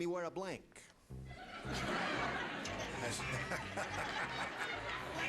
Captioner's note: laughter